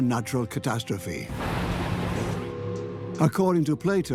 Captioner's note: thunder claps